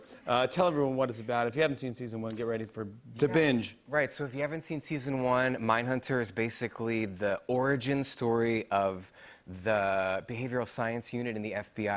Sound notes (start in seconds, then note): none